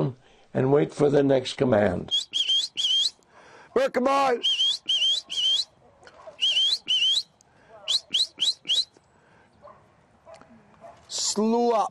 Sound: whistles

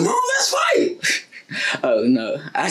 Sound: giggle

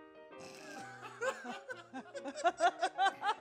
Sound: laughter

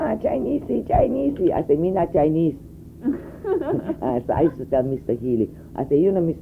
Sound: laughter

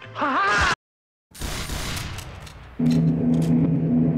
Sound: two gunshots

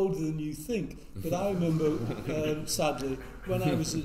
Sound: all laugh

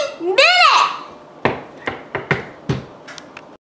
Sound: knocking at the door

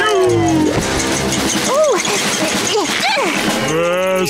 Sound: grunting

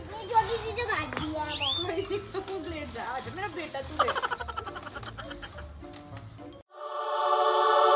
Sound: laughter

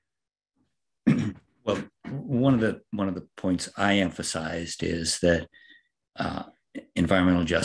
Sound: cough

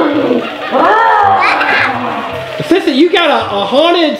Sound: growling

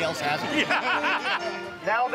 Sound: men laugh

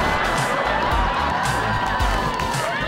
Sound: cheering

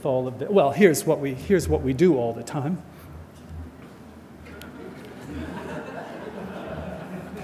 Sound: audience laughter

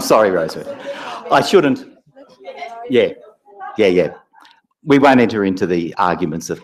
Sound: laugh

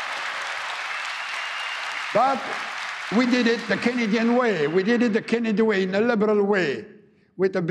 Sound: applause

